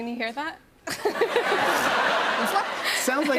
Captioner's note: laughter